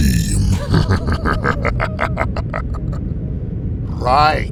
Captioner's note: chuckles evilly